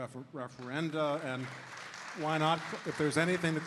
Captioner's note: audience applauding